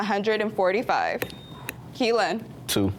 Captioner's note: buzzer beeps